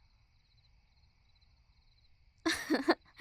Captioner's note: soft laugh